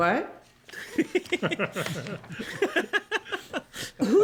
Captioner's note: laughter